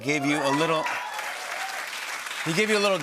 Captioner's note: cheers and applause